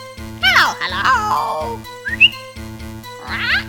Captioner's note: whistle; Polly squawks